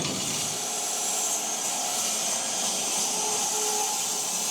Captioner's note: log saw whirring